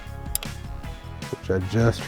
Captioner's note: clicking noise